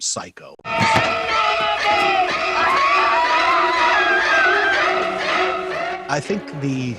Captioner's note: high pitched scream; creepy music